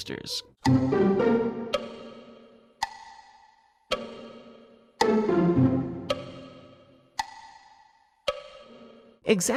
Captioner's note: clock ticking